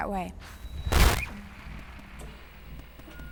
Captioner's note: static